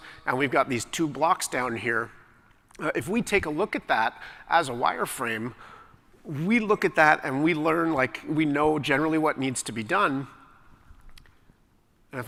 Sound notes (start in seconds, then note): none